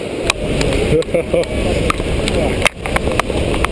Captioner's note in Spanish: Ruido del agua muy fuerte